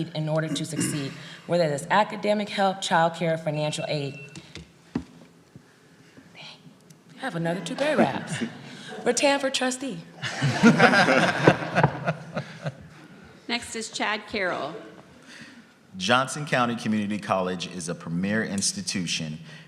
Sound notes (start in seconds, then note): 3.7 timer rings; 10.2 group laughs